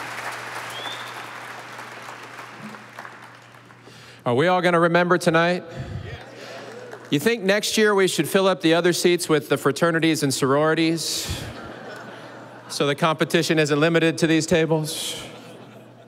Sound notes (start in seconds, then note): 6.4 audience applauding; 11.2 audience laughing